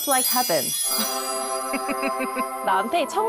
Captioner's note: heavenly sound effect